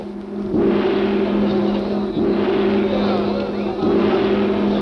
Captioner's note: gong crashing